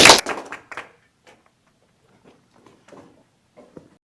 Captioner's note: applause